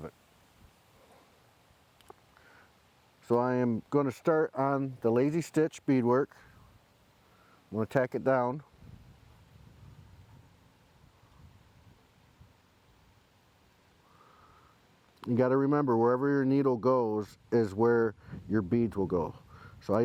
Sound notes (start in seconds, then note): 8.6 silence